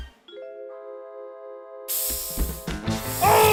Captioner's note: aerosol sprays